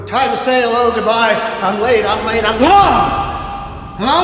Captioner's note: gasps